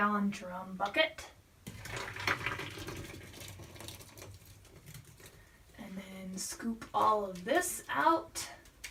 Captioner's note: soap being poured